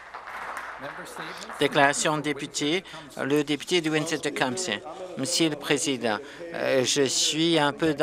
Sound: some Applause

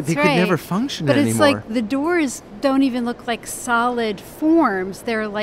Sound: voiceover

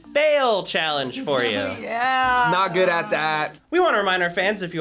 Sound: laughs

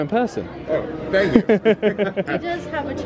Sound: laughs

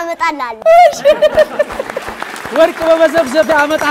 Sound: laughter and applause

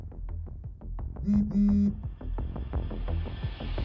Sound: quick phone vibration noise

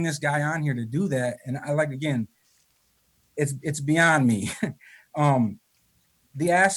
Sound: chuckles

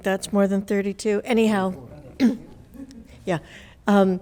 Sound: audience murmurs

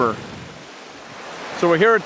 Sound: water gurgling

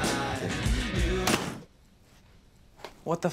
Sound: door slams, music stops

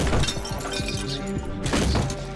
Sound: wood smashing; glass breaking

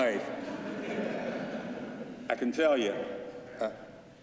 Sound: laughter

